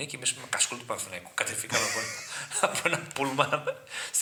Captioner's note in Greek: γέλια